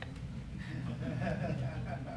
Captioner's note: laughter